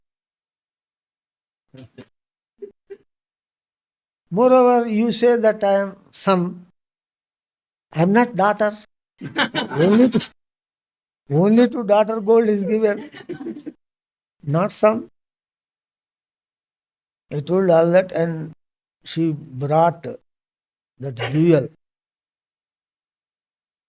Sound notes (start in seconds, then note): 0.2 laughs; 12.4 laughs